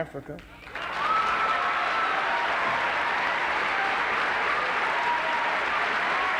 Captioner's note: applause, cheering